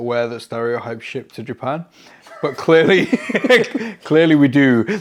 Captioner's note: laughs